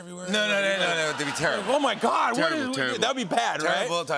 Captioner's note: laughter